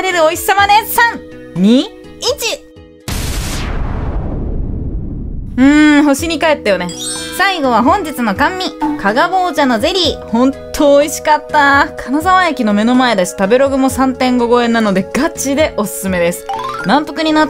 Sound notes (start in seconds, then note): 3.0 explosion